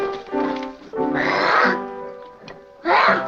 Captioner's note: child growls